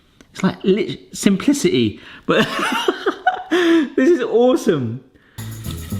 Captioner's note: laughs; bright music